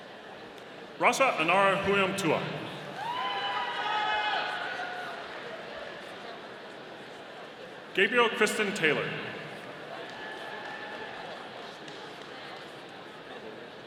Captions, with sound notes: Rasa Inara Humeyumptewa. (audience cheering) Gabrielle Christin Taylor. (audience applauding)